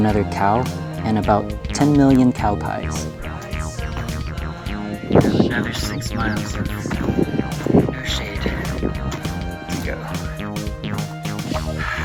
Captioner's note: sigh